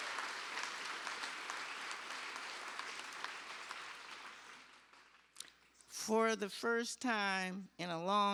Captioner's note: cheers and applause